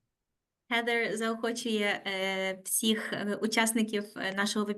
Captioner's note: speaking Ukrainian